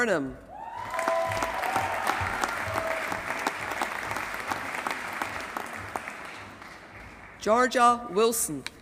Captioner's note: applause